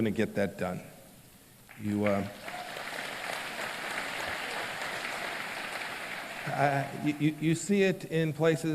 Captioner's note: applause